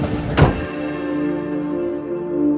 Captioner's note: car door slams; eerie music